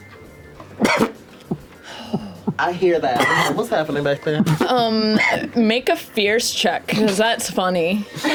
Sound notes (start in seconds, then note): 3.1 coughs